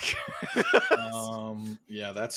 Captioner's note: laughs